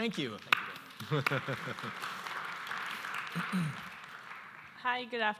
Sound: audience applauds

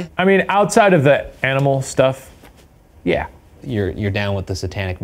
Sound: none

